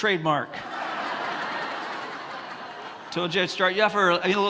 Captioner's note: congregants laugh